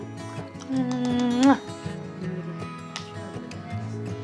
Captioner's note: smooches